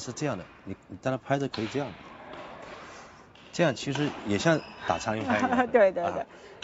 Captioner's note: laughs